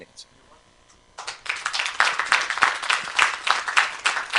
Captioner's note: applause